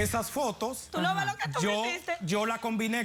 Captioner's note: sollozos